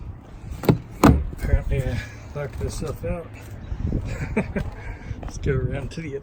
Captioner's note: laughs